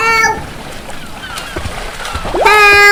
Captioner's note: seagulls; frantic splashing